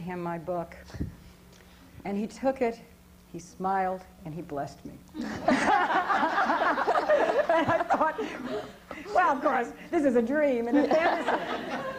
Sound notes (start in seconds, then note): 5.2 laughter